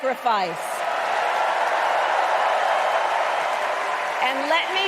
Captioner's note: applause